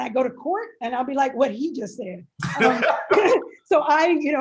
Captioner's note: both laugh